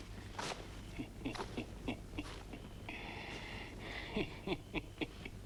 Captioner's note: Torente laughing